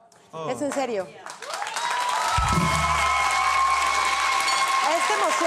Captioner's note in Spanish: Público ovaciona